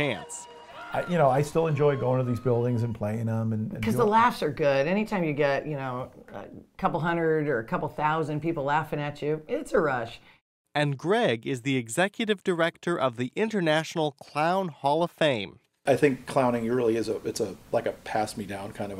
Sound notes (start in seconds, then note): 10.4 voiceover